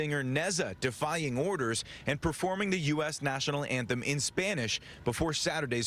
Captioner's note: sirens